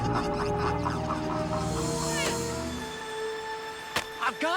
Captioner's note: laughter echoing